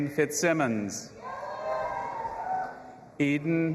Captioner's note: audience applauding and cheering